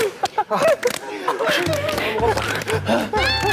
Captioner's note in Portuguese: Respiração difícil